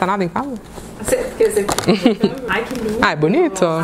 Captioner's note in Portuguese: risos